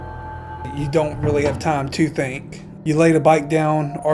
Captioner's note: voiceover